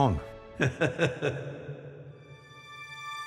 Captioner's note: chuckles